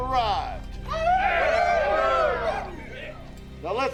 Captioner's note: gang cheering